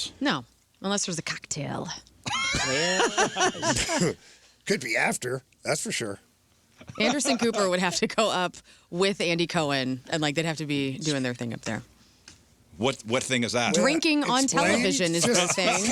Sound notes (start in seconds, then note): 2.3 laughing